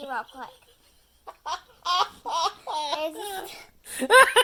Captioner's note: laughs